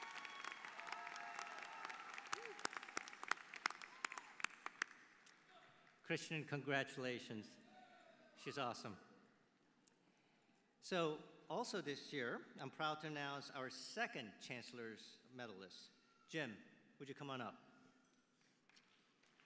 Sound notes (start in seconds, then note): 6.2 applause